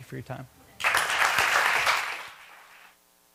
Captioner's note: applause